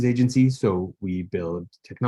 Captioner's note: none